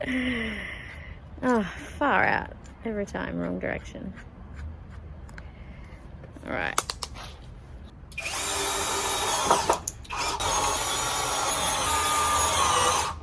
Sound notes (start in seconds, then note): 0.0 chuckles some more; 0.0 chuckles; 1.8 chuck rotates with quiet metallic noise; 6.8 chuck clicks loudly